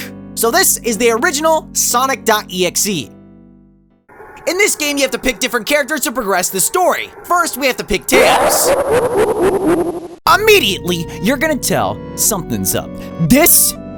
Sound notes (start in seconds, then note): 8.6 evil laugh